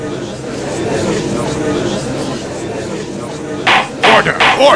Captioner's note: gallery chattering